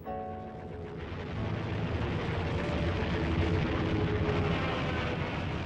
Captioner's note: plane engines roaring